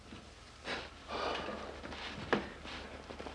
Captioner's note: exhales